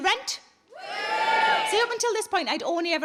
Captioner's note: scattered cheering